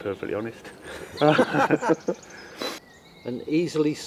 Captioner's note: laughter